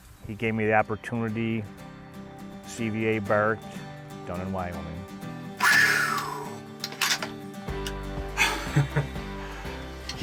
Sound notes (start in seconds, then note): 5.6 exhales; 8.4 laughs